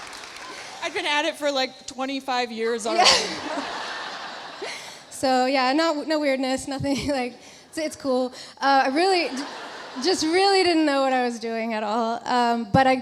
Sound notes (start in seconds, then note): 0.0 audience applauding; 2.9 laughs; 2.9 audience laughs